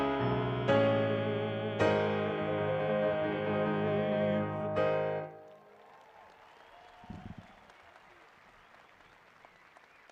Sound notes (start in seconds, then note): 5.2 graduates cheering